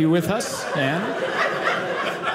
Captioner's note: audience laughing